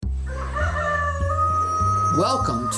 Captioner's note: bass music; cock cackles